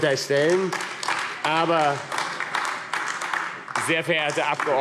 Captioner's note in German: Beifall AfD